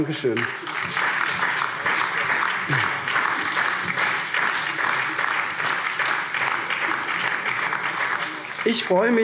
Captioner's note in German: Allgemeiner Beifall